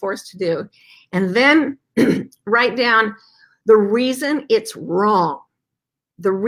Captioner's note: clears throat